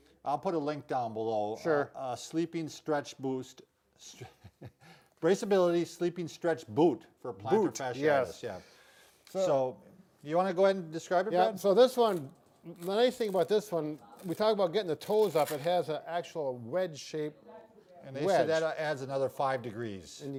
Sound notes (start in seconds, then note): 4.0 chuckling